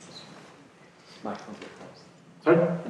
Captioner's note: voiceover